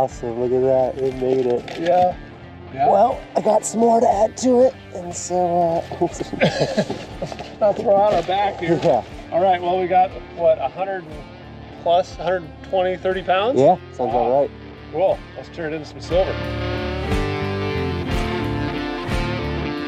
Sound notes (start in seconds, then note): 6.1 both laugh; 17.1 upbeat music